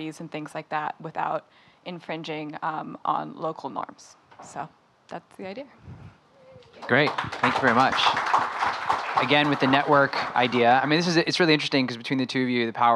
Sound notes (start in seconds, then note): 6.7 audience applauding